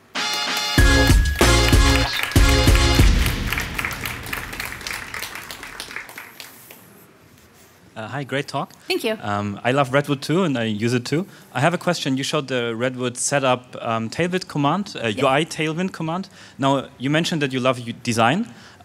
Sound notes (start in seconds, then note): 0.2 upbeat funky music; 3.5 audience applause